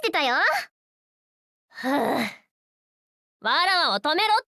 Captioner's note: sigh